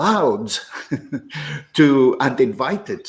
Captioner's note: laughs